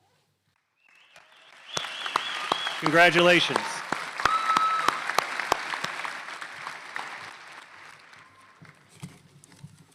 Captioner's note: applause